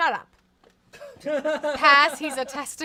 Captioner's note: laughs